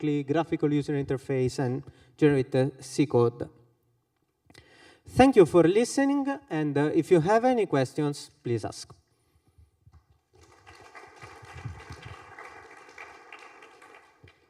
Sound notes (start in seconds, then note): 9.9 applause